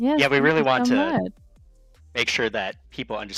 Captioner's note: laughter